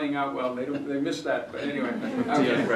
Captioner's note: laughter